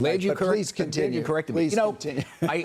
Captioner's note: laughter